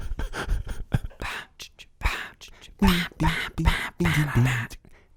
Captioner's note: laughter; group vocalizations